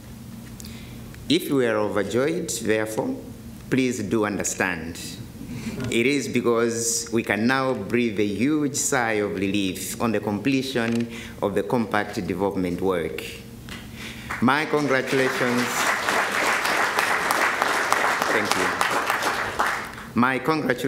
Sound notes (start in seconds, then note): 17.2 applause